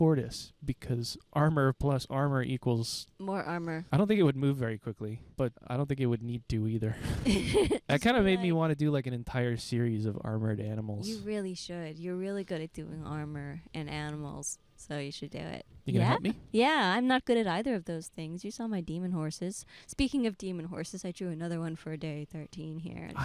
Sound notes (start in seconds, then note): 7.0 laughing